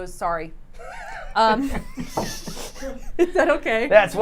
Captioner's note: everyone laughs